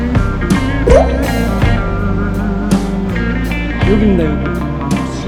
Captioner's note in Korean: 훌쩍